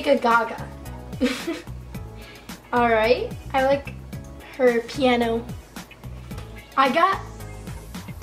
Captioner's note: laughs